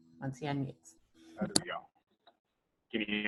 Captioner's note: speaking in foreign language